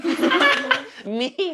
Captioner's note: laughs